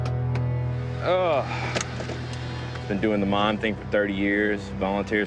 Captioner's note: sighs